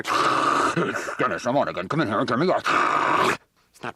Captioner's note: distorted breathing